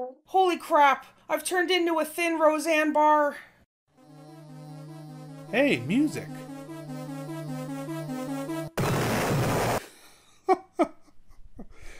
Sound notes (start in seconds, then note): 8.7 sound of explosion; 10.8 laughing